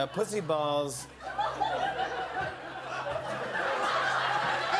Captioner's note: laughter